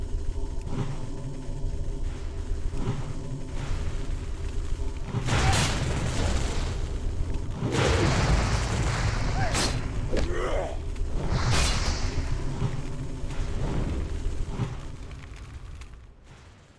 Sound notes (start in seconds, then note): 1.3 gun fires; 9.3 grunts